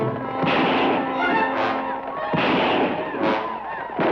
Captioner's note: guns fire